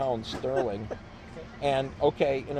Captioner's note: laughs